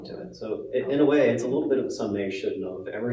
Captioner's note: none